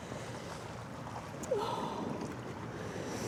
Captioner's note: none